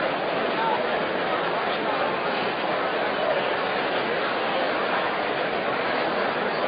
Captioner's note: general conversation